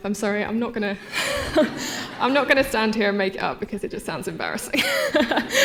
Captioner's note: laughter